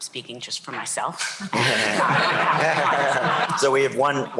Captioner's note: laughter